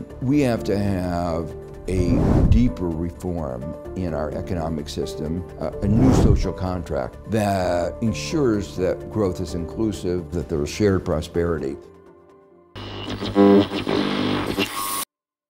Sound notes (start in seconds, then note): 5.8 air swooshing; 12.8 static voice distortion